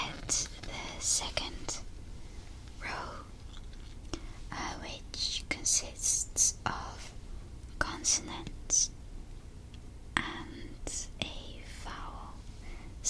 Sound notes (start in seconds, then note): none